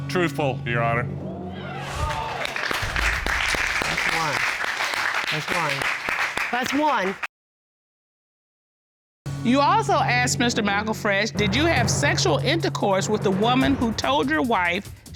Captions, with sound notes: truthful, Your Honor. [applause] That's one. That's one. That's one. You also asked Mr. McElfresh, "Did you have sexual intercourse with the woman who told your wife